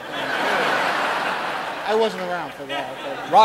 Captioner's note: audience laughing